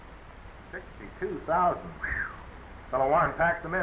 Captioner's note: whistling